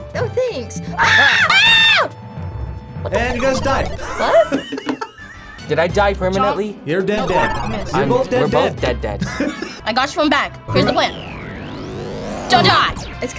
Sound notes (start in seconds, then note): 0.9 screams; 3.4 sad video game music; 7.3 sad video game music